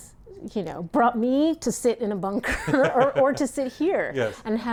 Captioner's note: both laugh